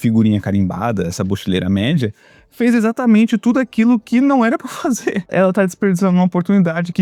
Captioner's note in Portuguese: risadas